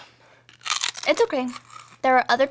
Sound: crunching

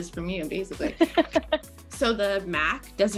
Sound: laughing

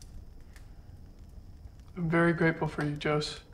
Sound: fire crackling

